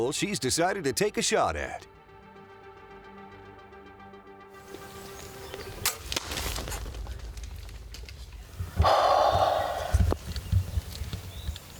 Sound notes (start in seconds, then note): 5.8 bow thumping; 8.8 sighing